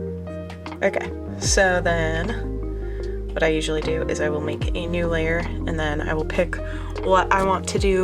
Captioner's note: bwomp noises